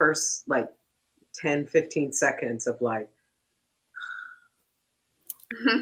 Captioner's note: sighs